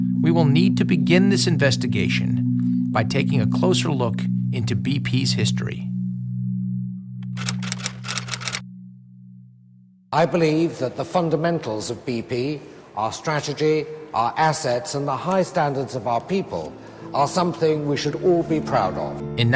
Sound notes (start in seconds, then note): 7.2 typewriter keys clicking